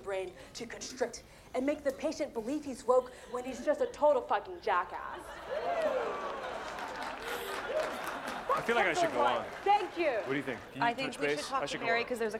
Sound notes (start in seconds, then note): 5.4 audience laughs, applauds